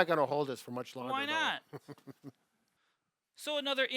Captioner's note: laughs